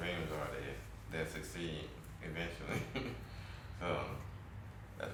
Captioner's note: chuckles